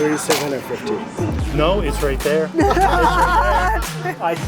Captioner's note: laughter